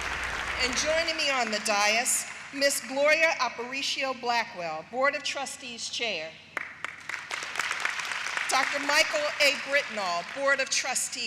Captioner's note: applause